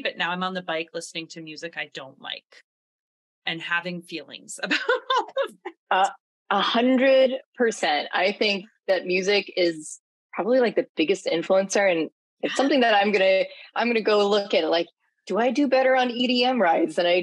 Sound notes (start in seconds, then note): 5.1 laughs